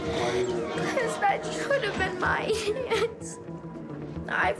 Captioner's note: crying